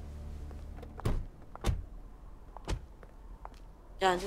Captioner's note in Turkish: Kapı sesi